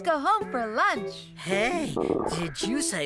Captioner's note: tummy Growling